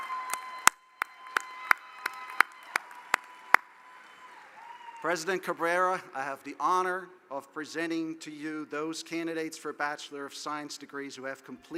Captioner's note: cheering; applause